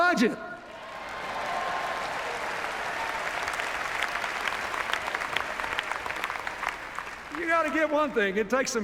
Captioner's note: cheers, applause